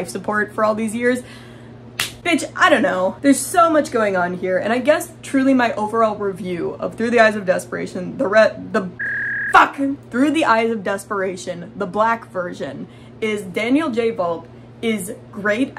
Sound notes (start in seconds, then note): 9.0 fax machine noises